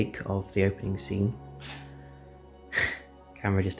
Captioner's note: camera turns off